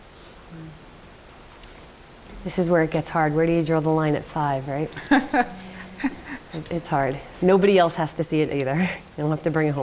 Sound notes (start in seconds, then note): 4.9 laughs